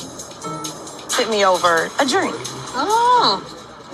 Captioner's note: inquisitive sounds